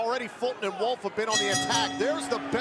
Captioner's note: bell ringing